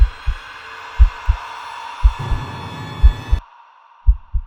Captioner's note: heart beating